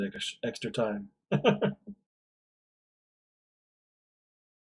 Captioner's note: chuckles